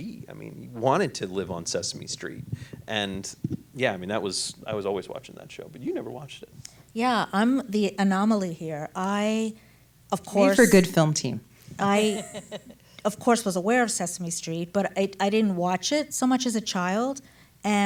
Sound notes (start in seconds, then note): 11.8 women laugh